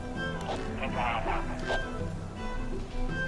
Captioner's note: radio static